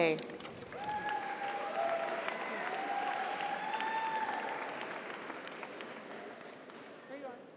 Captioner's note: audience applauds; audience cheers